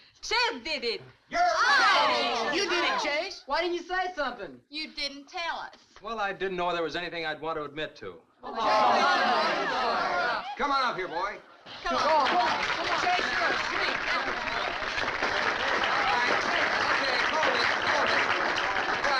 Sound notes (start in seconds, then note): 1.4 crowd groans; 8.5 crowd shouting; 11.8 crowd applauding